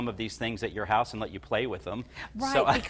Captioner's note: laughs